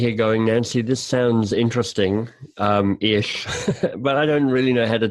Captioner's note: laughs